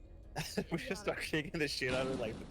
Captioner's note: laughs